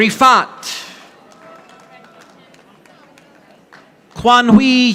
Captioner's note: audience applauding